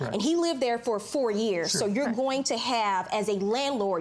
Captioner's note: none